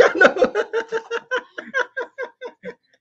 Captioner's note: laugh